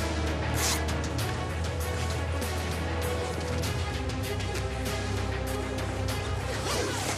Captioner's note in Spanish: sonido al cerrar el zipper